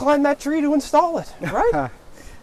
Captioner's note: porter chukles